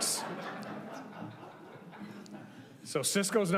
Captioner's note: group laughing